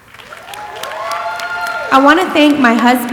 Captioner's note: audience applauding and cheering